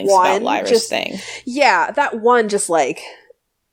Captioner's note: laughs